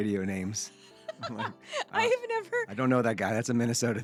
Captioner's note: laughing